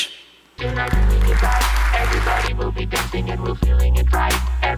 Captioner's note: audience applauding